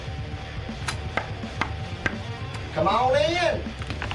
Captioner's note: knocking on door